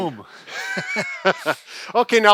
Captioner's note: both laughing